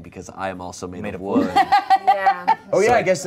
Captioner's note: laughs